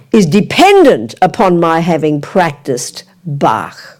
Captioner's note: speaking in French